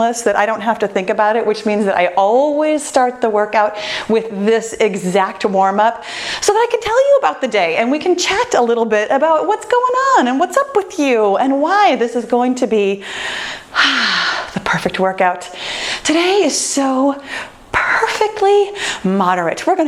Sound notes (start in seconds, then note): 13.0 breathes out